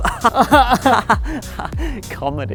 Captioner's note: both sarcastically laugh